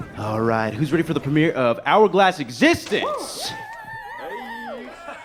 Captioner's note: audience cheers